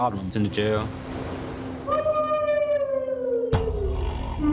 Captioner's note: inmate shouting; intense music